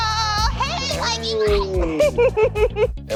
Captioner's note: laughs